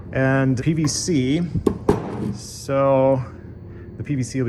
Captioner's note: none